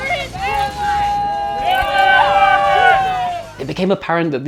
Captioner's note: tribe exclaiming